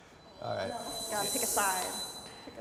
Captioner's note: pitch whirring